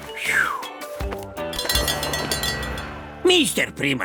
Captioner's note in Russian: выдыхает со свистом; звон колокольчика